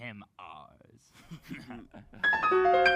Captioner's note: laughs